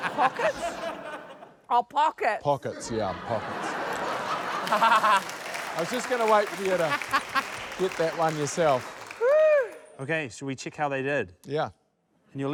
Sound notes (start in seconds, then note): 2.7 laughter; 3.8 applause